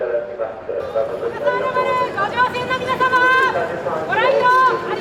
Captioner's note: speaking in foreign language